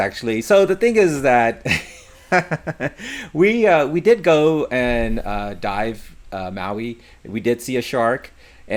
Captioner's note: laughs